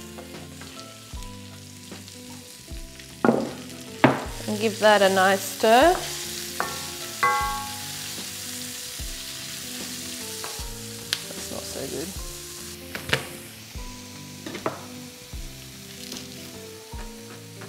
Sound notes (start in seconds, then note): 0.1 onions sizzle; 7.2 onions sizzle; 14.2 gentle music